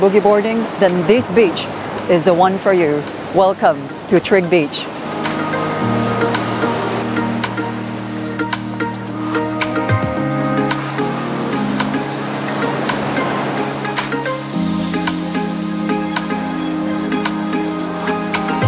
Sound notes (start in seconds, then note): 5.4 sound of waves